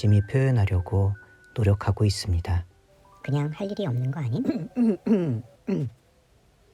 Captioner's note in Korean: 헛기침 소리